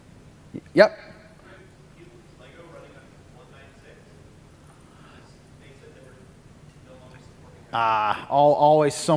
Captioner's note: off mic